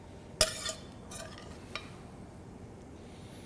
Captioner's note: sound of metal spoon hitting pan